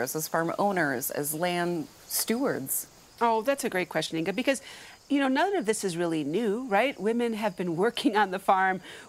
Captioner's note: none